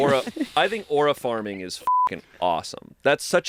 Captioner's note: beep